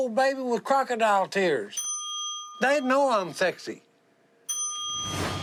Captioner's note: ding